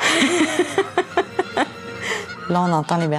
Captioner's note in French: rire